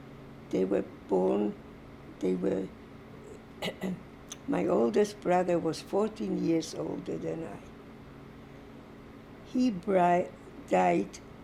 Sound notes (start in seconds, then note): 3.6 clears throat